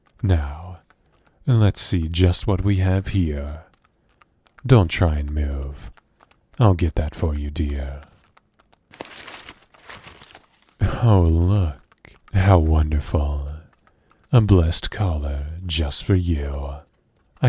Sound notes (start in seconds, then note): 8.8 unwrapping